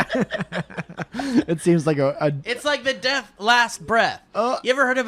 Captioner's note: chuckle